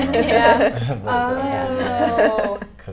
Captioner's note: laughing